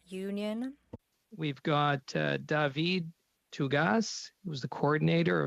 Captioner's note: speaking French